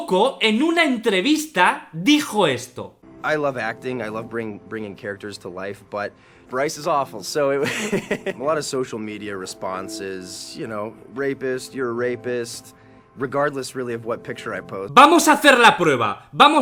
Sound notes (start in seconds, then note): 7.6 laughs